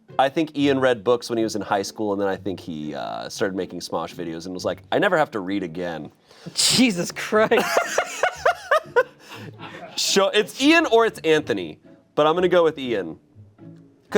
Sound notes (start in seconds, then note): 7.4 laughing